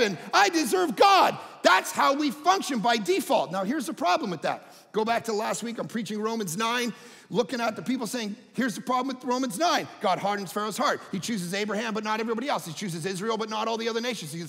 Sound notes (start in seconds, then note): none